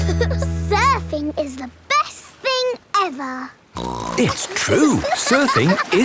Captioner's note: giggle; snorts